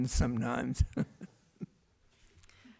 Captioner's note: laughs